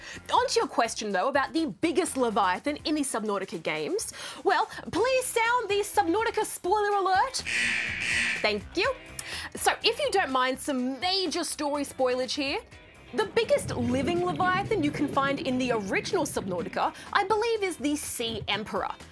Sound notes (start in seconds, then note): 7.4 klaxon blares